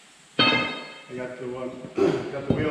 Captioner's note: clears throat